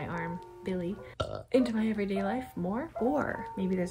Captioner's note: belches